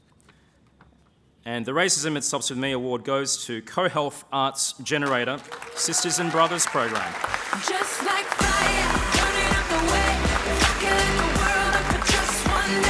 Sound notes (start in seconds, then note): 7.8 applause; 9.7 uptempo pop music